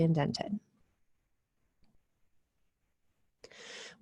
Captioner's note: silence